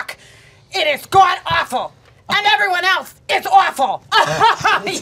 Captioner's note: laughing